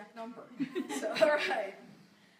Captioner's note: laughter